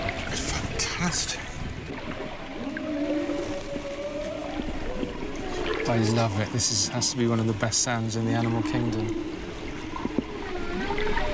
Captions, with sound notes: - It's fantastic. (whale singing) - I love it, this has to be one of the best sounds in the animal kingdom.